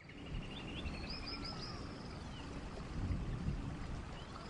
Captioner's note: birds chirping